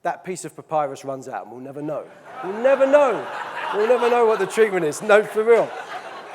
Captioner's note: audience laughing loudly